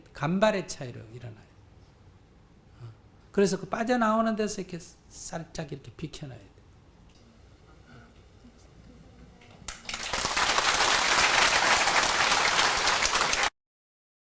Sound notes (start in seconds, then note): 9.6 applause